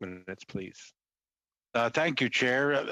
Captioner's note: speaking French